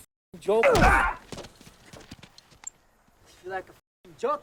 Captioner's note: driver grunts